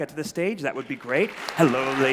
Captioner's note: applause